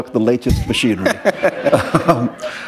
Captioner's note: laughter